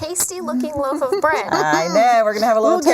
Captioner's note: laughing